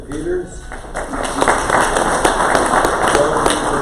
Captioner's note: crowd applause